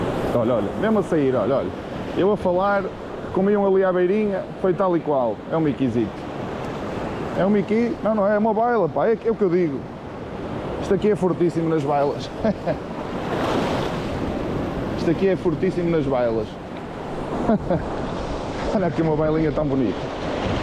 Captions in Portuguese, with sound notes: Olha, olha, mesmo a sair, olha, olha. Eu a falar, comeu ali à beirinha, foi tal e qual. É um miquizito. É um miqui? Não, não é, é uma baila, pá, é o que eu digo. Isto aqui é fortíssimo nas bailas. [Risos] Isto aqui é fortíssimo nas bailas. [Risos] Olha aqui uma bailinha tão bonita.